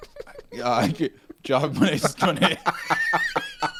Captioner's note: laughing